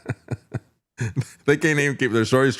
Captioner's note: laughing